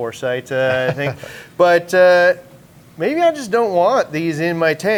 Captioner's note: chuckles